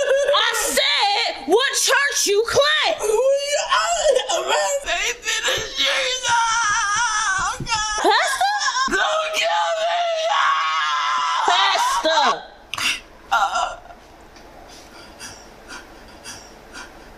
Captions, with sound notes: I said, what church you claim? (Rambling) Aligned Faith Ministries... agh. Pastor? Don't kill me! Agh! Pastor.